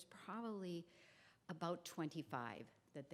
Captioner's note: none